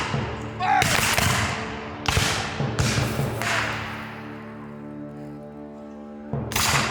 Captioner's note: guns fire; guns fire